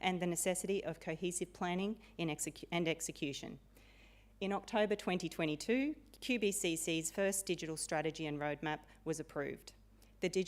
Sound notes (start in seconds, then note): none